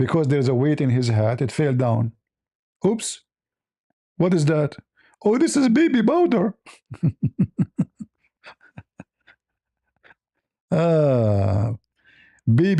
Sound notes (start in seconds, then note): 6.6 laughter